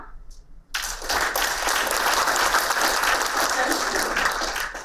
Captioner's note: applauding